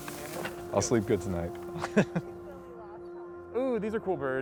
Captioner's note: laughs